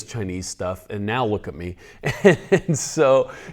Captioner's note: laughs